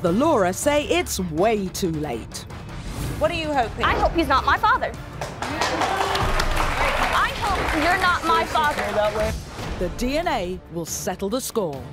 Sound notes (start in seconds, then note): 5.2 crowd applause